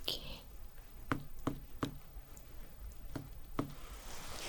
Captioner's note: tapping sounds